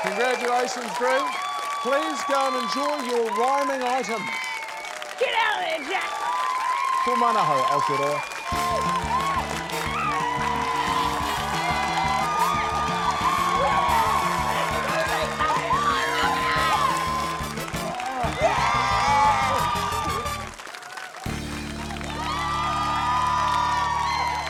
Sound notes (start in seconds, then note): 0.0 cheering, applause; 12.7 shrieks; 22.3 cheering, applause